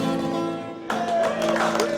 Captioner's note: all clapping